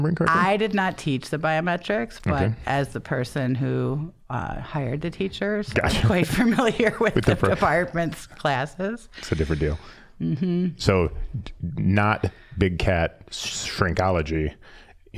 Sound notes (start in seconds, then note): 6.6 laughing